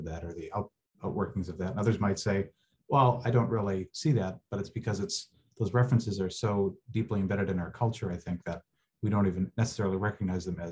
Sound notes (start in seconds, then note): none